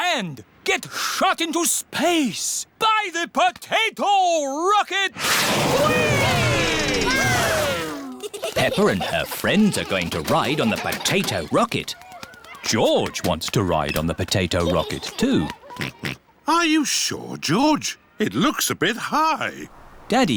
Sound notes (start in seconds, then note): 16.2 oinks